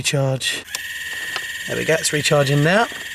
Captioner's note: motor whirling